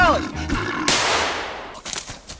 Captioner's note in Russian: взрыв